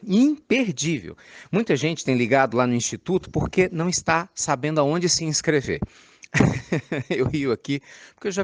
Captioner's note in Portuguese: Risos